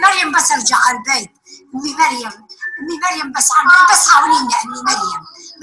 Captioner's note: woman speaking foreign language